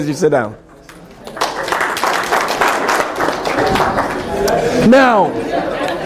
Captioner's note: applause